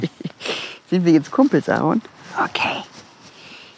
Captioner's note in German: flüsternd